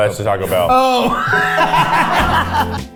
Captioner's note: laughing; bright music